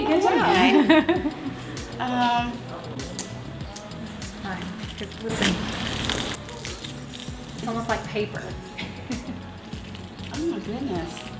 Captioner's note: rustling